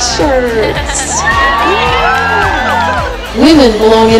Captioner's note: cheering